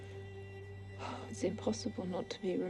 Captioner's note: Jane sighs